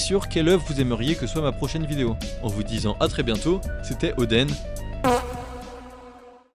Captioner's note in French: bruit de pet